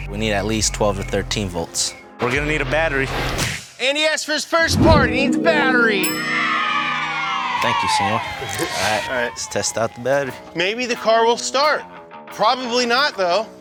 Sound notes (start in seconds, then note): 5.6 children cheering